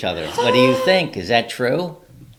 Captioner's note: gasping